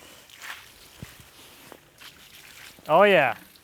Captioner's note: water splashing